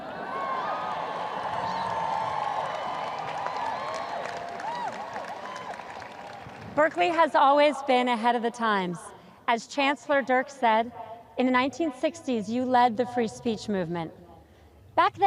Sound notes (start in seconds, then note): 0.0 audience cheers